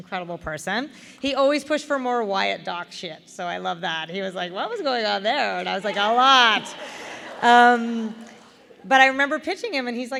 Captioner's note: laughter